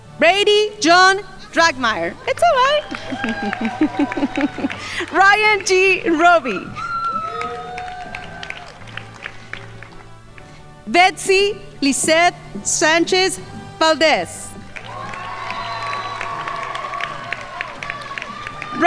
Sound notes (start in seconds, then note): 2.8 giggling; 3.2 crowd applauding; 7.0 crowd applauding; 14.6 crowd applauding